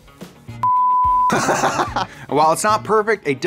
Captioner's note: beep; laughs